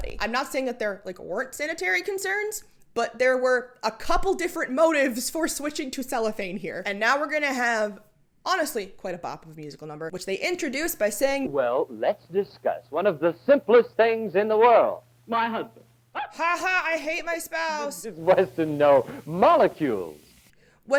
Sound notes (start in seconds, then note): 0.0 mic bump; 15.8 raucous laughter